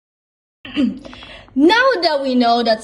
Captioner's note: ahem